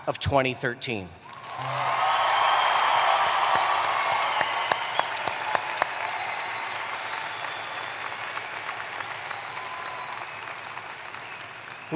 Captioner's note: applause